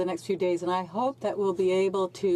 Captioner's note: speaking French